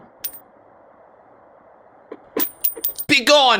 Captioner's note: coin clinks